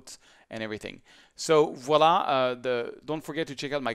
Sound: speaks in foreign language

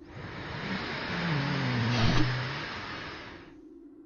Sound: powerful inhale

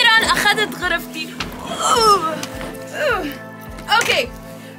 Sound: grunts

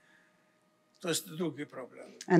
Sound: foreign language

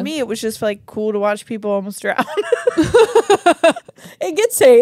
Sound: laugh

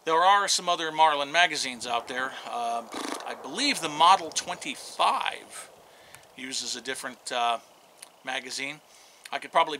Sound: horse whinny

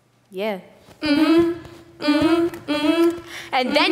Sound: humming

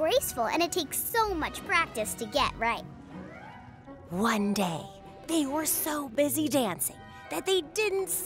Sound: none

